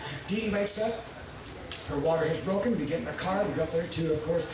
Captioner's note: none